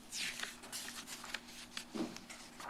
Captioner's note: rustles